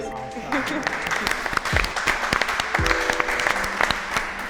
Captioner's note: group clapping